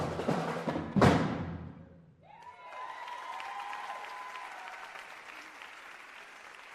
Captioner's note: cheers and applause